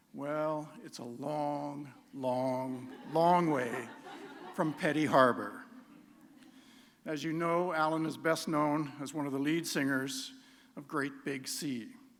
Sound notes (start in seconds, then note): 6.0 laughter